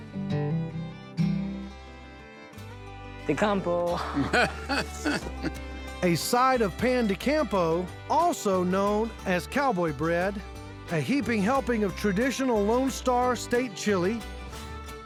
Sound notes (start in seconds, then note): 3.9 laughing